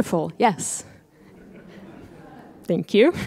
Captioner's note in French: rires